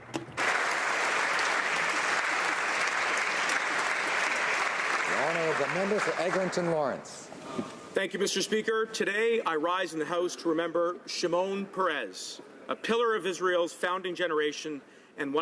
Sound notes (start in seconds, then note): 5.2 applause